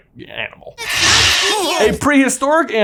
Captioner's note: Kevin screeching